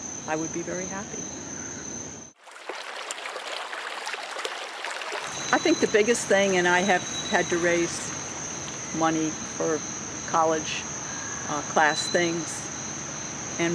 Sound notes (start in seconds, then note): 2.4 water running